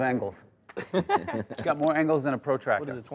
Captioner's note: players laughing